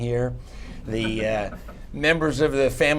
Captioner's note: laughter